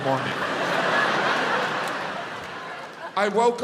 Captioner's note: audience laughs